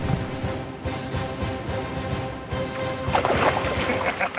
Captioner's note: dramatic Music; fish splashing